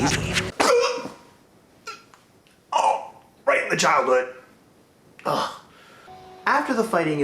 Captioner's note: gasp